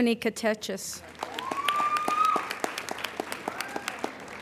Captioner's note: applauding